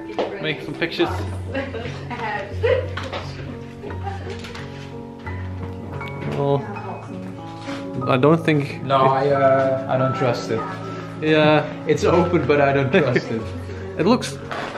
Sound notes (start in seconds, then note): 0.0 soft background chatter; 1.5 relaxing Romantic Piano Music